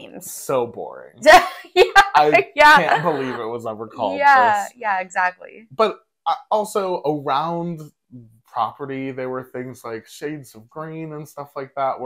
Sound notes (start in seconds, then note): 1.6 laugh